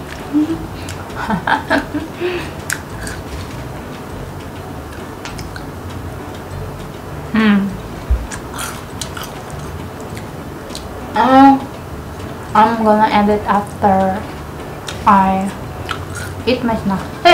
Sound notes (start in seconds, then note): 0.2 laughing